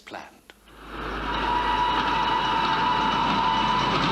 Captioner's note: train whistle